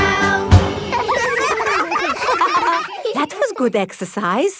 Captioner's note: all giggling